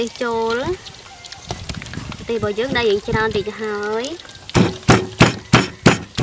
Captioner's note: pounding